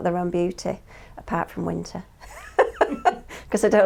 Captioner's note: laughs